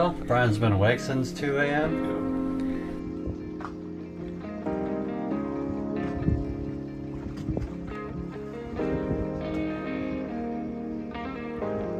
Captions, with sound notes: Brian's been awake since 2am. [wind]